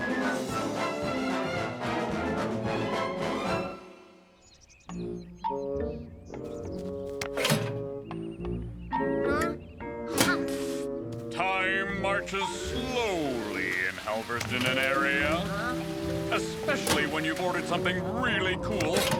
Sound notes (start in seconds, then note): 0.0 dramatic crescendo; 0.3 mysterious music; 7.1 mailbox thuds; 10.1 mailbox slams